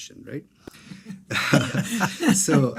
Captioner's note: everyone laughing